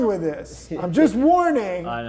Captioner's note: laughing